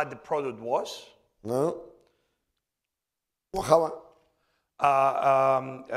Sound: speaking spanish

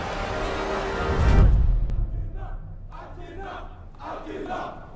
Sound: crowd chanting

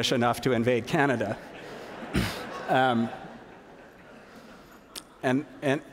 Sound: laughter

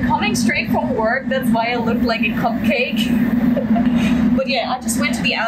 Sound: laugh

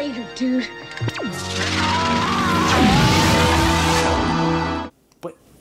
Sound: screams in goomba

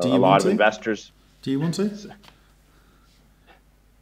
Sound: pause

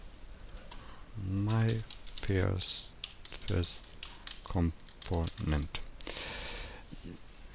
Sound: typing

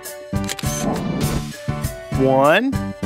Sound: SFX: Camera Shutter

